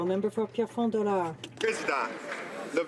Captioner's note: some Applause